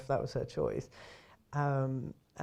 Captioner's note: inhales